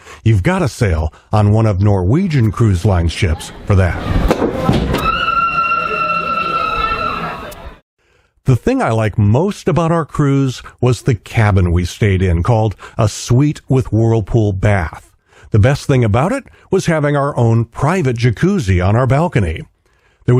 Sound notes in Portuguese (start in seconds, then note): 4.9 Gritando!